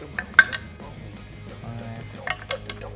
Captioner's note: die rolls